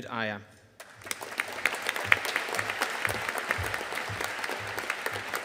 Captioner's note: audience applauding